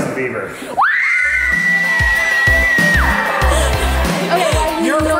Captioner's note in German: Familie jubelt